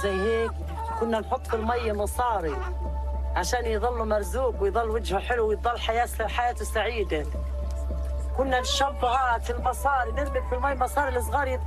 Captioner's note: speaking in a global language